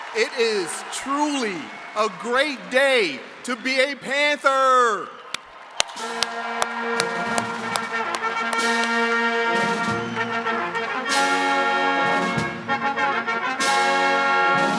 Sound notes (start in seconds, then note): 5.7 attendees cheering and clapping; 8.5 uplifting instrumental music